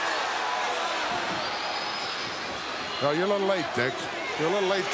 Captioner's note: applause